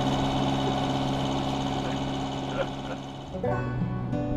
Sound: laughs

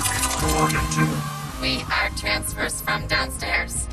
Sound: in robotic voice

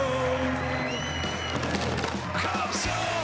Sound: cheering

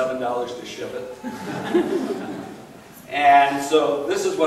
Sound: laughing

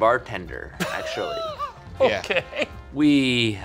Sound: laughs

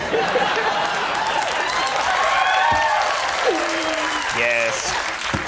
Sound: audience applauds

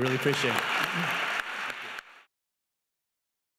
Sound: clapping

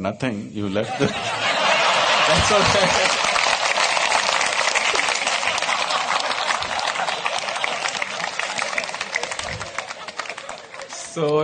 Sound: laughter/Applause

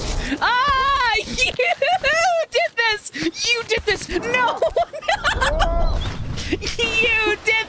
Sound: laughter

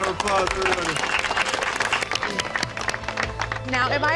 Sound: applause

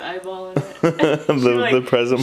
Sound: laughing

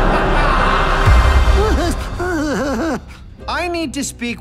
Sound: nervous laugh

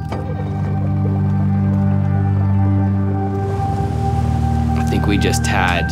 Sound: motorboat engine stutters

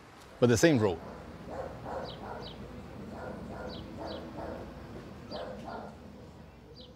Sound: dog barking

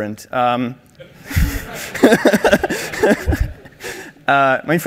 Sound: laughing

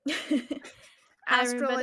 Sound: person laughing

